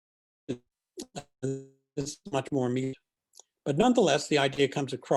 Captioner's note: distortion